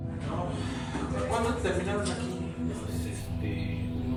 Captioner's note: speaking Spanish